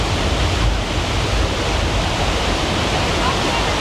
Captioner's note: water whooshes